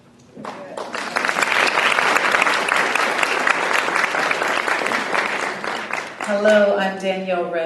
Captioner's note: applause